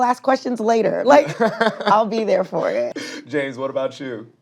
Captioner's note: chuckles